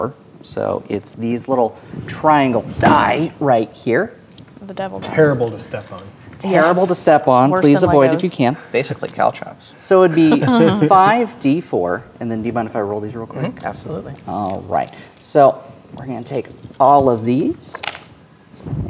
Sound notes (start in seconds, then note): 10.2 players laughing; 17.0 dice rattling; 17.8 dice rolling